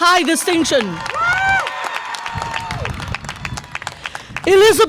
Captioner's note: audience applause and cheer